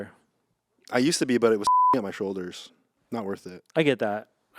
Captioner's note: beep